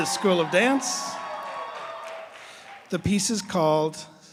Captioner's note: cheers and applause